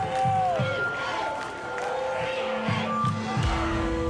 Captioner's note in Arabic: تصفيق